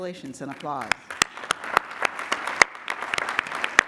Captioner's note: applause